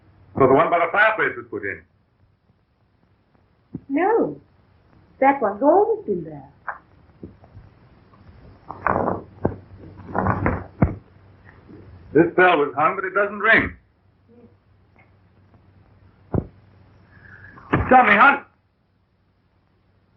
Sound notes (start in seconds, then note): 8.2 pounding; 13.2 pounding; 19.2 pounding